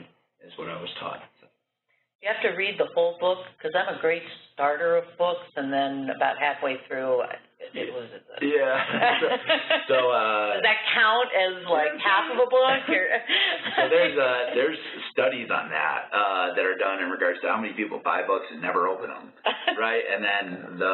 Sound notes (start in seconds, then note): 8.5 laughter; 12.5 laughter